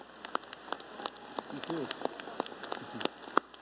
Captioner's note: applause